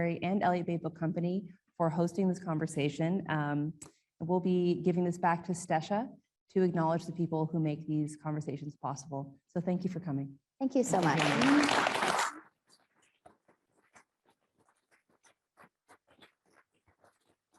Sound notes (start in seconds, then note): 10.8 audience applauding